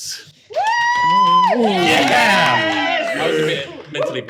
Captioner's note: players cheer